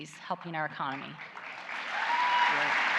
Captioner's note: applause